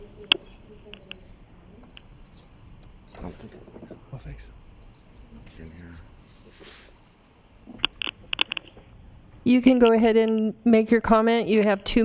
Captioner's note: phone ringing